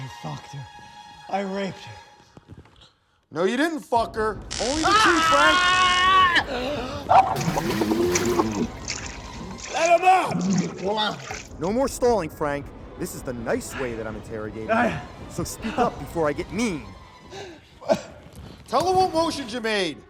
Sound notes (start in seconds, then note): 4.6 screaming; 10.4 shouting